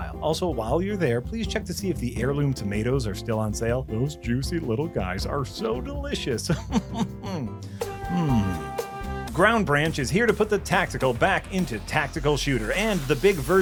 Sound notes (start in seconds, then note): 6.4 chuckles